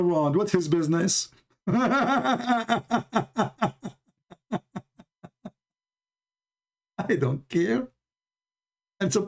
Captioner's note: Ketawa